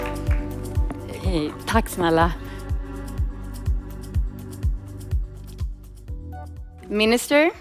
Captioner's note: audience applauding; speaking in Swedish